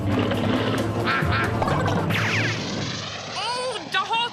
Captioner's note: quacking